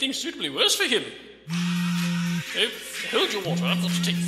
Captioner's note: phone vibrating, ringtone